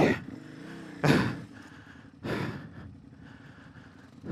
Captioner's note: pants